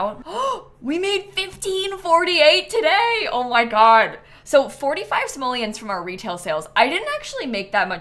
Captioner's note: gasps